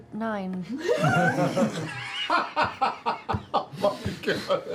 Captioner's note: laughter